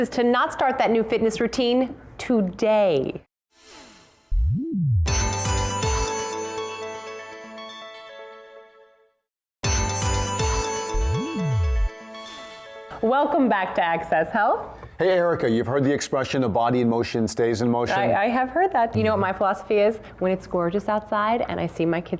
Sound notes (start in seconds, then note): 7.1 whisper